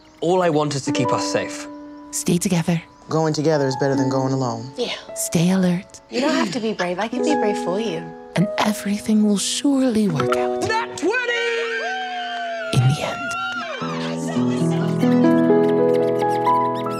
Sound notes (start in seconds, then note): 11.0 players cheering; 14.0 gentle music